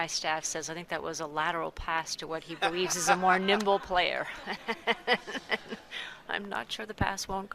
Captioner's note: laughter